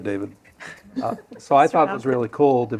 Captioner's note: laughter